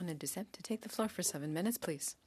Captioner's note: speaking French